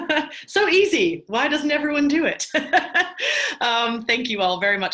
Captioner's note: laughs; laughs